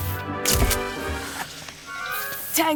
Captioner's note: camera clicks